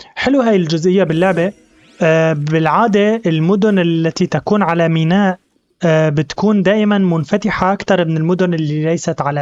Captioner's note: zap